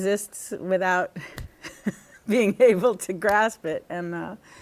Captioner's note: laughter